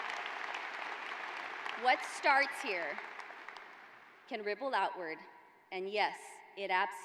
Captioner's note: cheers and applause